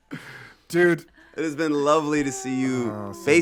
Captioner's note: group laughing and chattering